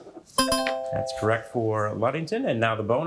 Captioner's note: bell ringing; buzzer ringing